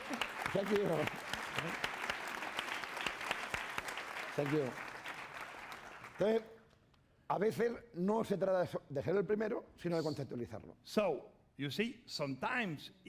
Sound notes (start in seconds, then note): 0.0 applause; 5.9 speaking spanish